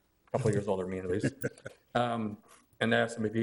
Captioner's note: laughs